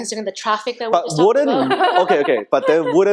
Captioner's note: laughing